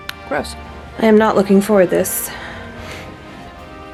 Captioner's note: snickers